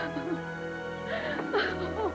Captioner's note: sobs happily